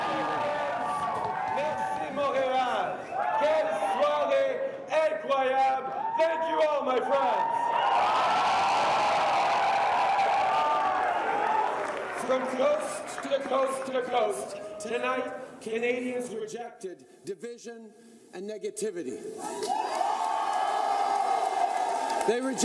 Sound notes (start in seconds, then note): 9.7 speaking French